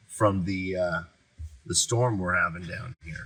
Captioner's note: none